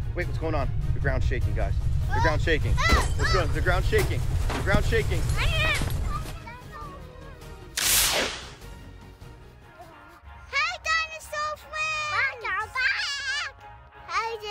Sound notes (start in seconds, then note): 0.0 rumbling sound; 1.1 glasses breaking; 4.9 electric sound